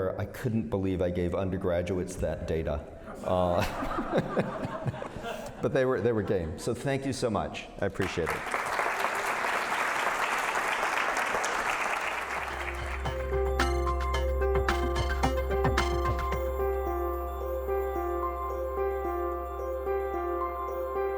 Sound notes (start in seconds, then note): 3.1 laughter; 8.0 applause